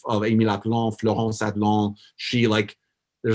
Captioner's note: foreign language